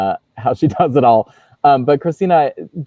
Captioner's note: laughs